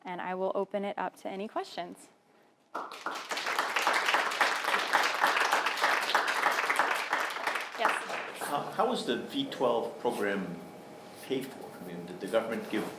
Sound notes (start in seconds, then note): 2.7 applauding